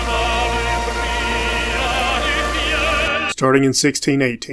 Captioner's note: Static